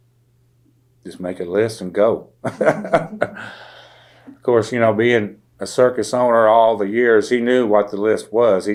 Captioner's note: laughter